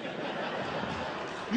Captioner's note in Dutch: Gelach